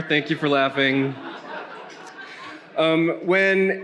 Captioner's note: attendees laughing